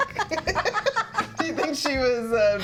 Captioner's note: both laughing